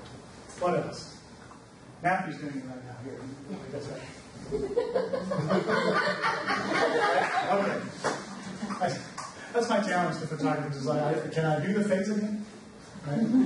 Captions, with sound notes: What else, Kathy's doing another round here. (group laughs) Okay. That's my talents, can I do the face again?